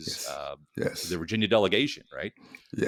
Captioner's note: laughing